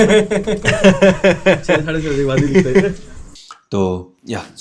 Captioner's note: everyone laughs; more laughter